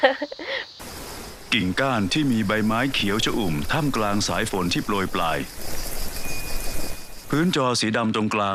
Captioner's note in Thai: เสียงลมพัดใบไม้